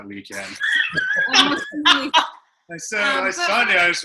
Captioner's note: laughter